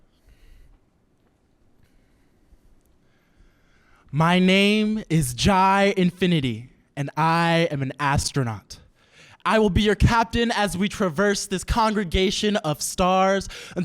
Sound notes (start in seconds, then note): none